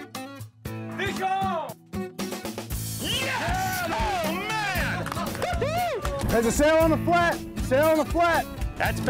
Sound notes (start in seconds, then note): 3.0 excited cheering